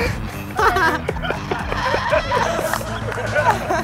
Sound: laughter

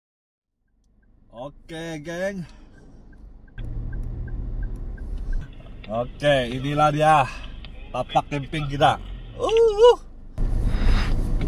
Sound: excited

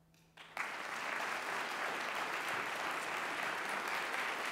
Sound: audience applauding

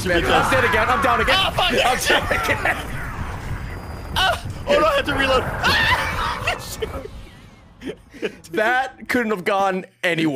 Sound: laughs; laughs

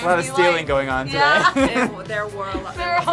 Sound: both laugh

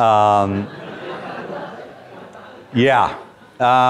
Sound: students laugh

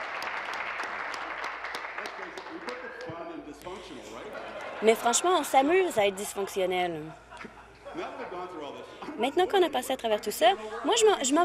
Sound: applause; laughter

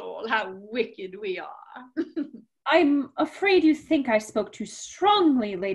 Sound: laughter

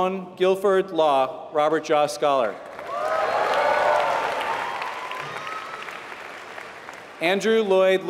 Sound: applause

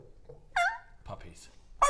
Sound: howl

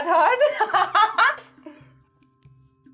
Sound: laughs

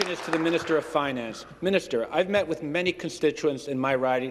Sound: some Applause

